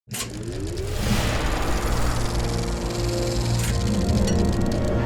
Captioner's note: film reel clicking